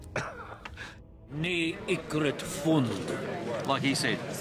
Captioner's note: speaks in dwarvish